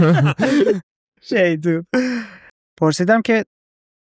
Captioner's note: laughs